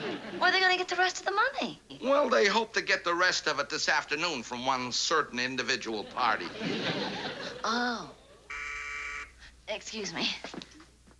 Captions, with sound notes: Where they going to get the rest of the money? Well, they hope to get the rest of it this afternoon from one certain individual party. Oh. -(doorbell buzzes) -Excuse me.